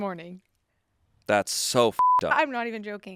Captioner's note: beep